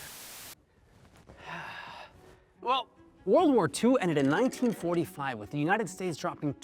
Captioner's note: sighs